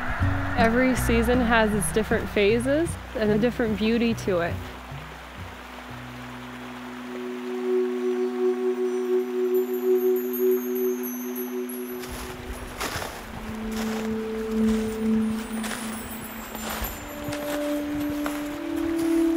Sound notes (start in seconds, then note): 11.9 snowshoes crunching on the snow